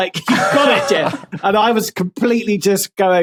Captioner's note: others laughing